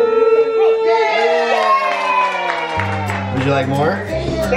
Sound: applauding and cheering

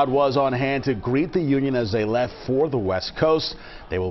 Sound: cheers and applause

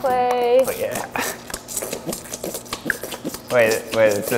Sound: squelching

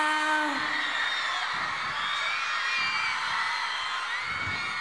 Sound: applause

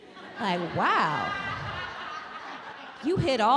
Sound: audience laughing

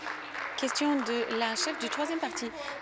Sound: applause

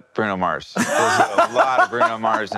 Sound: laughs

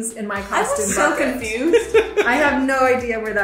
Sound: laughs

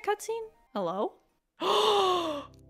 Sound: gasp

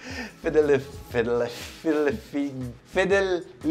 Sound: stutters

